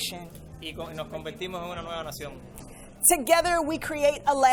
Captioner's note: and interpreter speaking in foreign language